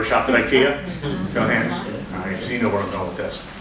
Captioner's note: audience giggles